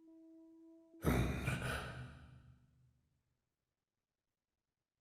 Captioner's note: grunt